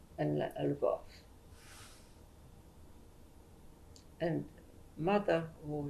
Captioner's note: pauses for 3 seconds